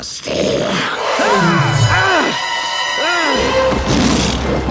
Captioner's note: groans in pain